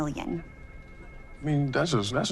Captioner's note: phone ringing